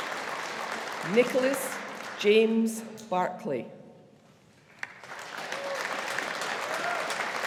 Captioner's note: audience applauding